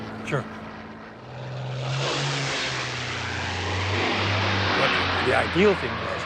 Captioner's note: aircraft engine roars